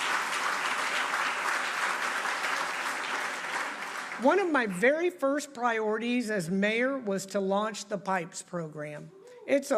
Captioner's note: applause